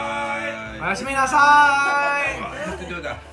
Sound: japanese

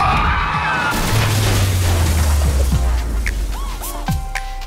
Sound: tires squealing; car crashing

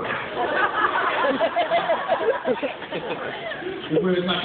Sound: laughter

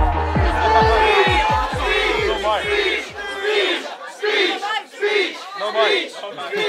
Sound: crowd

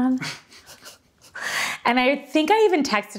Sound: both laughing

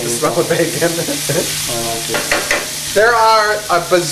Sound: chuckles

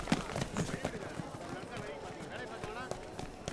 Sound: indistinct chatter

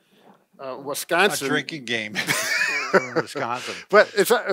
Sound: chuckles

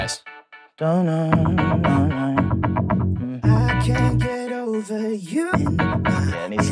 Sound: humming

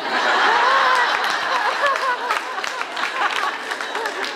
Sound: audience laughs

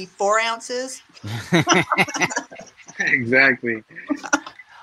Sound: everyone laughing

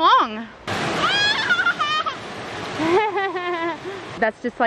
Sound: excitedly laughing

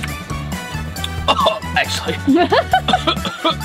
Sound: laughs; coughs

